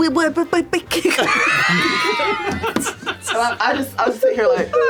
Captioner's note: laughter